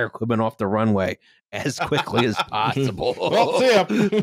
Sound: all laughing

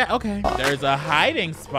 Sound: video buzzes

